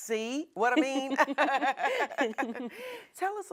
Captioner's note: both women laughing